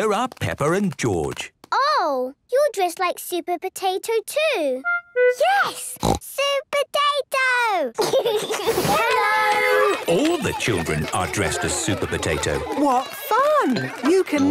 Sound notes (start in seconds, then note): 5.9 snorts; 8.0 giggles